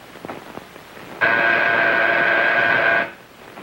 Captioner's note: buzzing